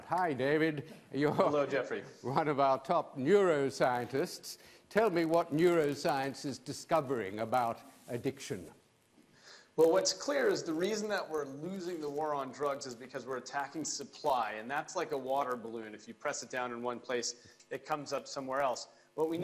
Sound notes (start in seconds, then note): none